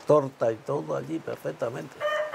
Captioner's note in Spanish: cacareo